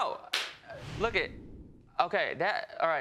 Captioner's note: stuttering